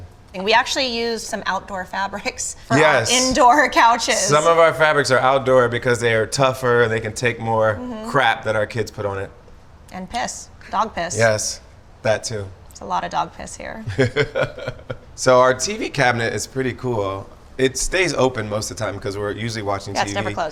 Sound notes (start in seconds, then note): 13.8 laughs